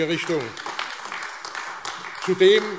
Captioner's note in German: Beifall AfD